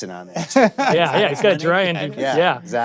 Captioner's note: laughter